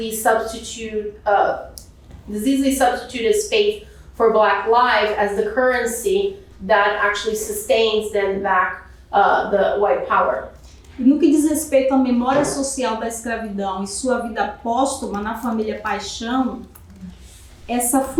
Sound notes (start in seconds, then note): 11.4 speaking portuguese